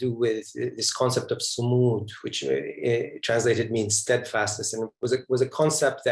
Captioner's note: non-english speech